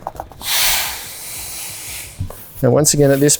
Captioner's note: air blowing out of mat